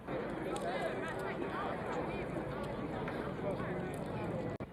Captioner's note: crowd chattering